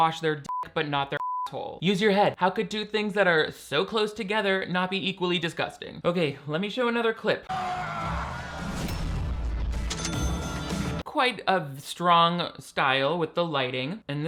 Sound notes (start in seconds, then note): 1.1 beep; 7.4 Hunter screams; 7.6 slow dramatic music